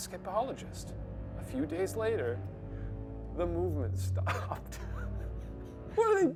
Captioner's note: laughs